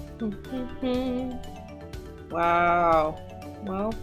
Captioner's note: humming